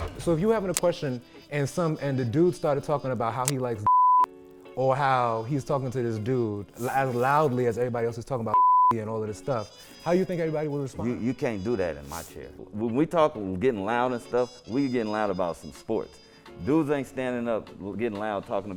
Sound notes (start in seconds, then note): 3.8 beeps; 8.6 beeps; 11.4 stammers